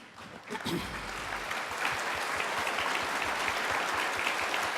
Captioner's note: audience applaud